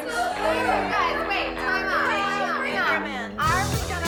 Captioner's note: contestants chattering